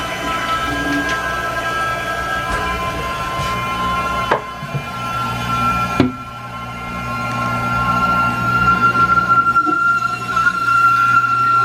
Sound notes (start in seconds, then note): 2.6 still wailing like a banshee